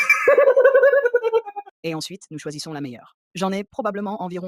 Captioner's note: laughs